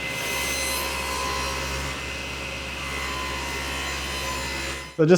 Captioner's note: machinery continues to whir